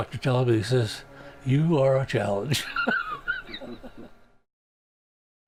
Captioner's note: laughs